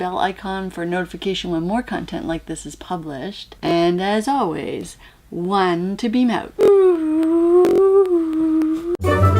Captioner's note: whooo; end music